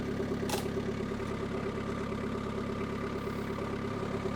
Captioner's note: wood clanking